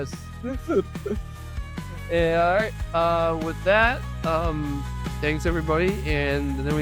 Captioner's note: laughing